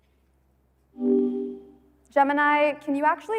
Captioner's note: tone beeping